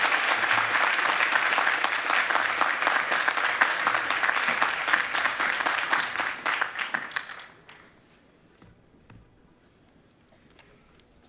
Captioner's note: applause